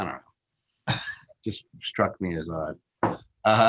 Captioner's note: laughs